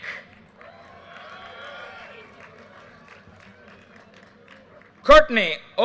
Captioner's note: audience cheers and applause